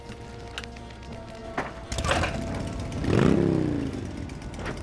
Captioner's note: engine turns over, revs